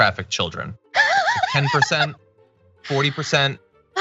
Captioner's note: laugh